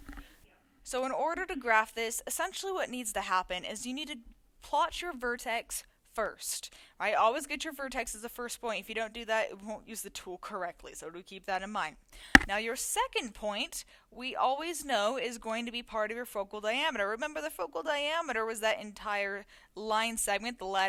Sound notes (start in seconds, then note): 12.3 mic clunk